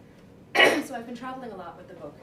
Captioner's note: clears throat